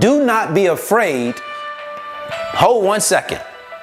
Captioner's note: phone alerting